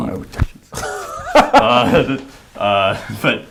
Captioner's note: laughing